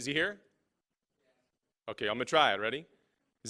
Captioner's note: voiceover